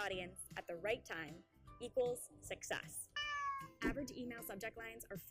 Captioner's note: meow